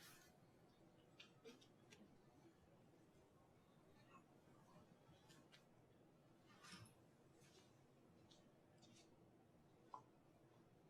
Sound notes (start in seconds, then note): none